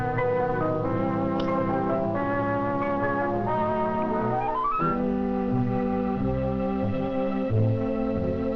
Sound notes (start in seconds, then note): 1.6 ball taps; 1.6 light music